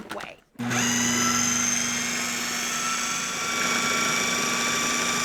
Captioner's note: food processor whirring